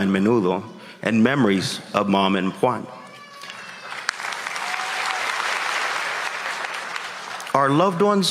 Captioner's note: applause